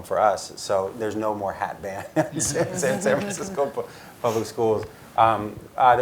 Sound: laugh

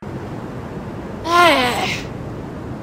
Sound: sad chernobyl girl noises

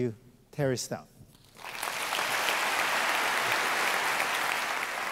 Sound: applause

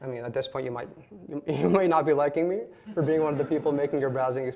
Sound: laughs

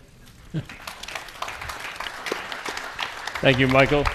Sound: attendees applauding

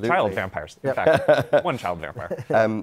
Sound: laughter

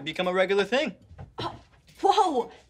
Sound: gasping

